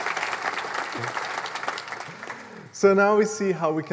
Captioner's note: applause